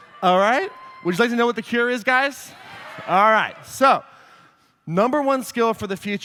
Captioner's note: cheering; audience agrees